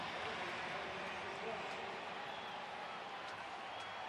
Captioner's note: pa announcement